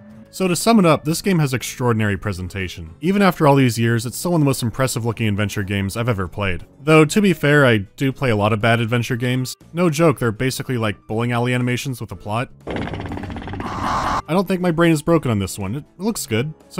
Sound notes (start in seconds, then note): 12.7 vicious croaking